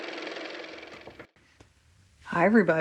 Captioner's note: car motor